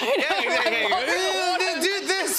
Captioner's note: laughs